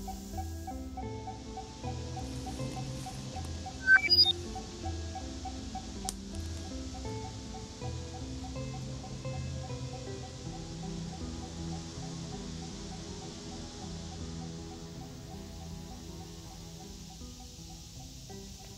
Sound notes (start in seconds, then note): 0.2 device beeping; 3.8 device chirps